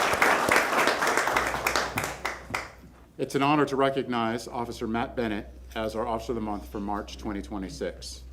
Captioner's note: applause